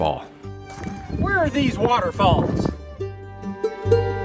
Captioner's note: wind blows